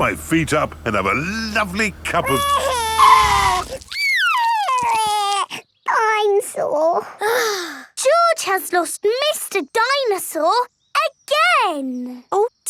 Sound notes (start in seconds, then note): 2.1 crying; 2.6 tires screeching; 7.5 sighs